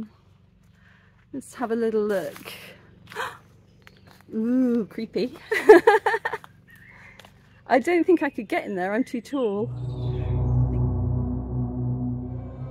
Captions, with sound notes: Let's have a little look. Ooh creepy [laughing] I don't think I could get in there, I'm too tall. [ominous music]